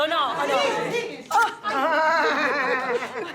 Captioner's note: laughs